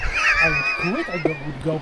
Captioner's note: laughing